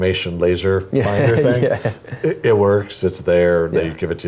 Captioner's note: laugh